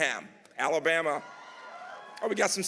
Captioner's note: audience cheering